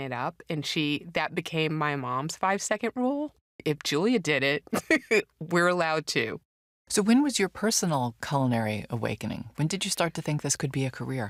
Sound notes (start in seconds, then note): 4.3 laughs